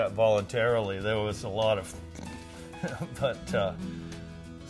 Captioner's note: grunts